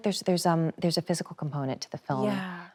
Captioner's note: none